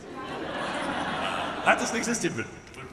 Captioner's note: audience laughs